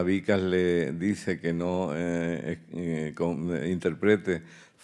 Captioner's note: speaking in Spanish